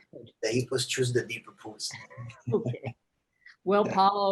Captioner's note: both laughing